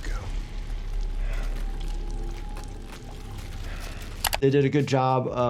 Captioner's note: heavy breathing